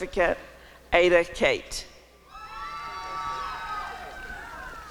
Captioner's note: applause and cheering